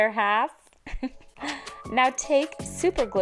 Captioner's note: giggles